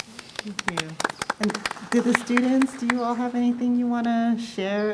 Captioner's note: applause